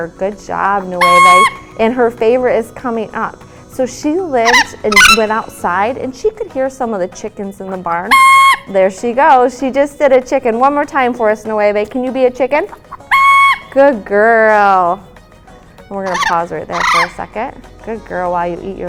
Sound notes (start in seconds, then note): 8.1 crows; 12.7 crows